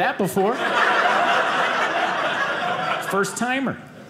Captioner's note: audience laughing